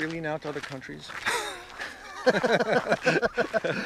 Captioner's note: laughter